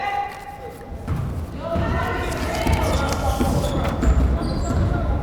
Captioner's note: crowd chattering and yelling